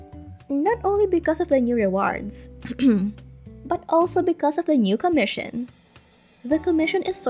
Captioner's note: ahem